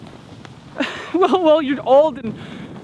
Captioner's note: haha